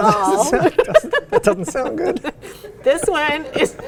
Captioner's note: laughing